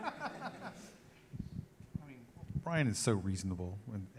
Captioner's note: laughs